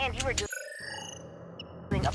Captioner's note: beeping